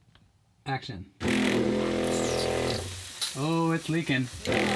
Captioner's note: loud whirring